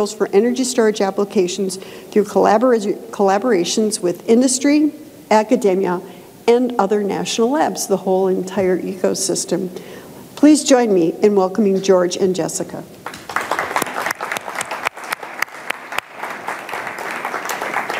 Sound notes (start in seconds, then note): 13.0 audience applauding